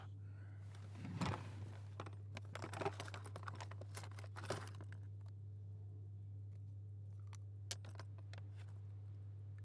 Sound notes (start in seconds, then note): 0.9 drawer opening